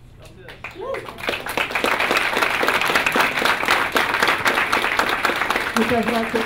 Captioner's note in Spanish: Aplausos